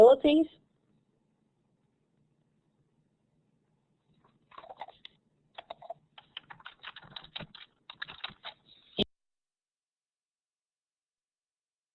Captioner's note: silence